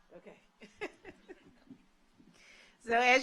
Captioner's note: laughs